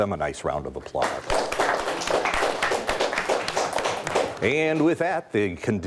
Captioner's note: audience applauding